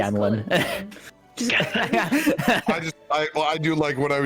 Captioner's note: laughs